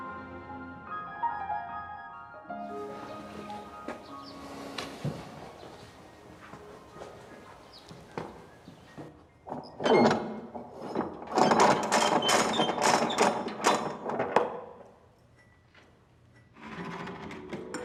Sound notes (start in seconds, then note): 2.6 footsteps plodding; 2.7 birds chirping; 9.8 metal creaking